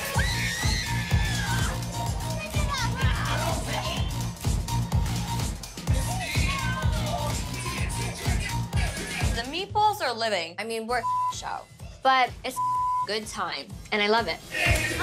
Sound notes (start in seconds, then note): 0.0 yells; 8.6 laughs; 12.5 beep